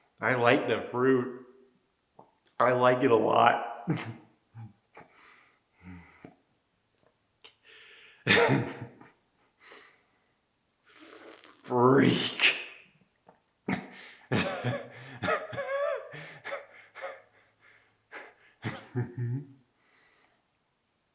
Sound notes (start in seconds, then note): 3.9 chuckles; 14.2 Jacob laughing